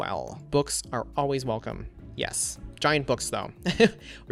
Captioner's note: laughs